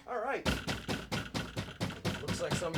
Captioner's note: knuckles rapping